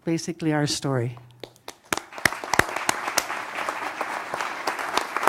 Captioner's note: applause